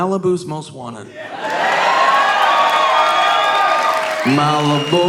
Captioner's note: audience cheering